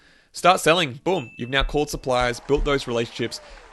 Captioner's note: bell dings